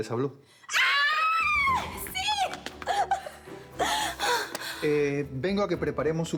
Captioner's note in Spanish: exclamaciones